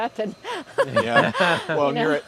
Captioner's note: laughs